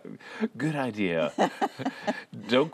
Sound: laughter

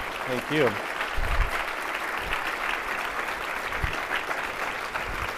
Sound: audience applauding

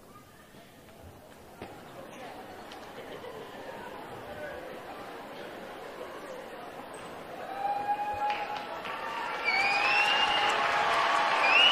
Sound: cheering and applause

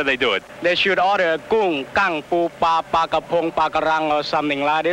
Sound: speaks in foreign language

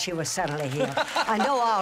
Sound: laughter

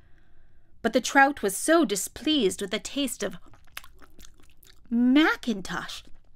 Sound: smacking sound

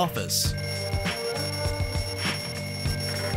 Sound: alarm ringing

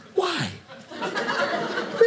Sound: audience laughing

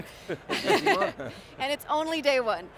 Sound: laughs

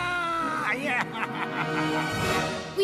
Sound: evil laughter

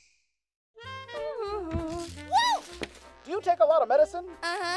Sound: humming

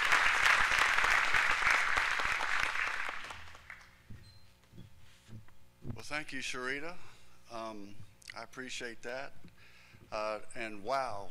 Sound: applause

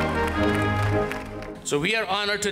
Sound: applause

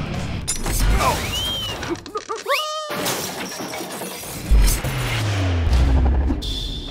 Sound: crash

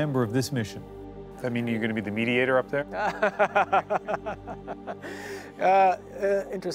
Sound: laughs

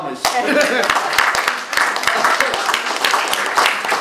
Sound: clapping

